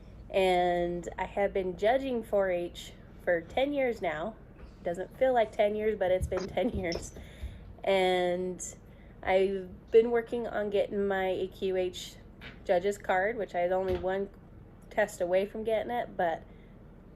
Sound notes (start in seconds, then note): 6.3 chuckles